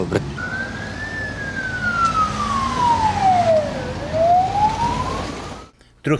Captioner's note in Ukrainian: сирена швидкої